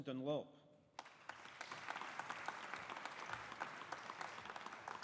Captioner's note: audience applauding